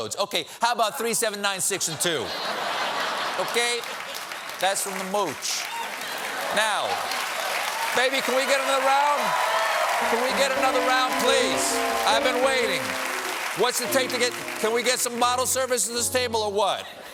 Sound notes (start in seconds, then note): 10.9 cheers and applause